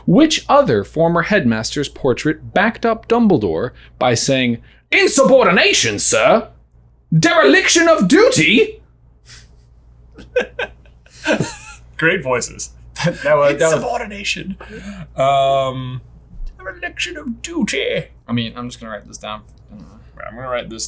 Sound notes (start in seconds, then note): 10.1 laughs